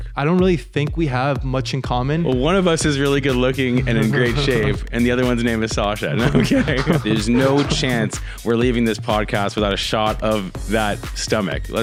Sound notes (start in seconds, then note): 3.6 laughs; 6.0 both laughing